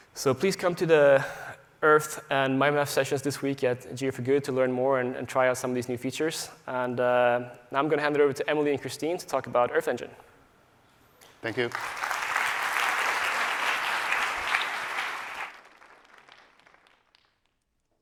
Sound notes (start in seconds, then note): 11.4 applause